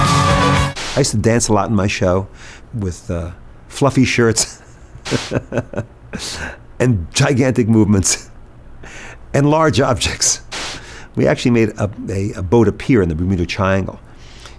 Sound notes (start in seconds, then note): 4.6 chuckles